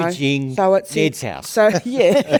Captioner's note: participants laugh